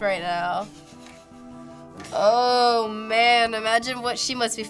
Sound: chuckles

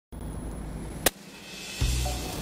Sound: net cannon firing

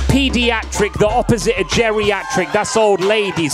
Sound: crowd cheering

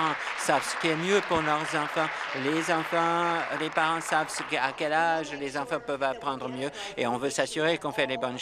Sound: applause

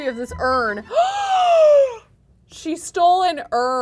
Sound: gasping

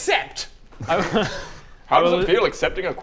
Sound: laughs

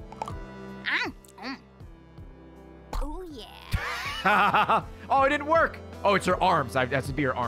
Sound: laughs

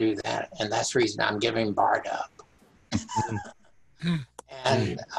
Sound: laughing

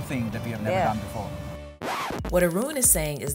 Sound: record scratching

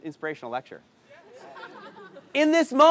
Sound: crowd laughs

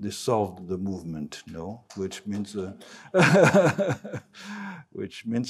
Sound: laughs

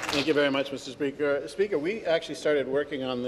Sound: some Applause

